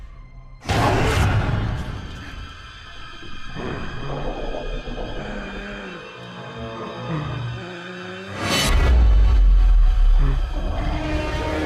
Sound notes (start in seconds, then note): 0.3 monster growling; 0.3 sudden ominous music; 3.5 soft eerie music; 3.6 monster rasping softly; 8.5 soft ominous music